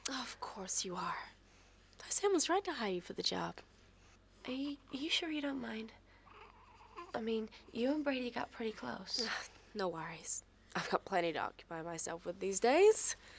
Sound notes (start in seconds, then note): none